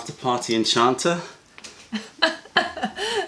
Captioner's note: laughter